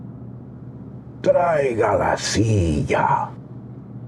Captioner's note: speaking spanish